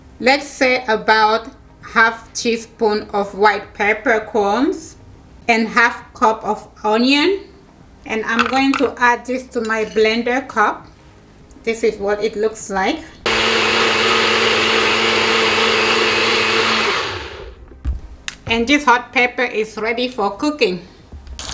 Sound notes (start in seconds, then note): 13.2 blender whirring